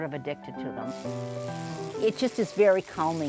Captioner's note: machine cranking sound